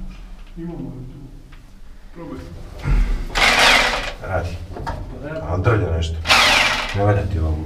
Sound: drill

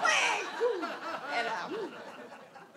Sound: audience laughs

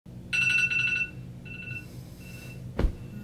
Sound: alarm clock beeps; hand taps

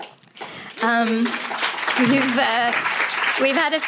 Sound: audience clapping hands

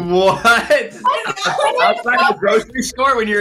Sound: laughing

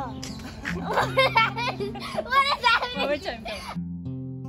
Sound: laughng

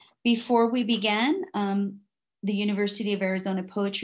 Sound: none

